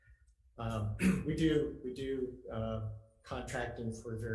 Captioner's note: clears throat